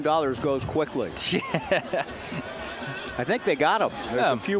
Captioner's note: laughs